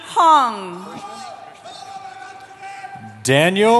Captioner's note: cheering